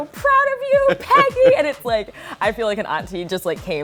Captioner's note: laughs